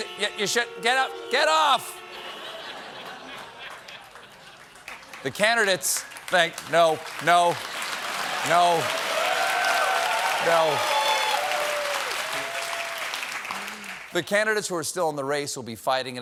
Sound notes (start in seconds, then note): 2.0 laughter; 3.5 applause; 10.3 cheers and applause